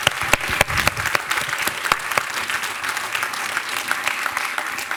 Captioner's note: attendees applauding